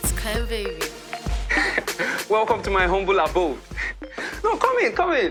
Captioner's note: chuckles